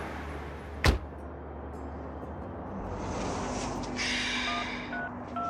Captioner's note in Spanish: Sonido al cerrar la puerta; Tonos al marcar el celular